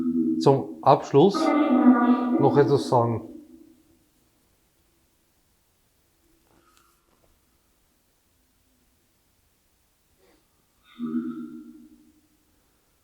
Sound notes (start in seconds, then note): 3.2 silence in the background